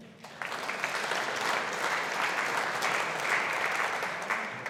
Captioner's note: audience applauding